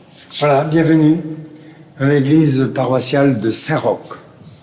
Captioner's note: French spoken audio